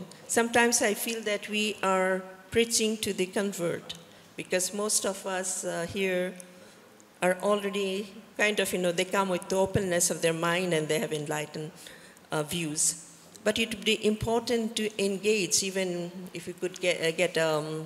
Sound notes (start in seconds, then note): none